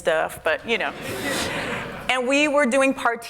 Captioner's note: laughter